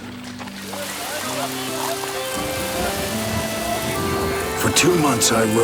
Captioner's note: rain splashes